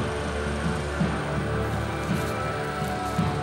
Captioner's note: locusts rustling